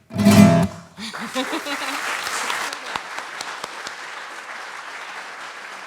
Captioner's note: applause